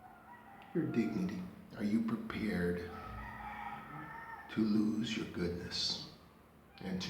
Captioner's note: roosters crowing